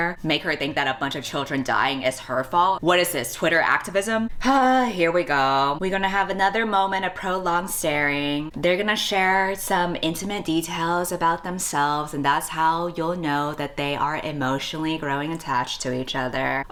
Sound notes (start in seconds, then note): none